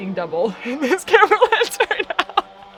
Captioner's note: laughing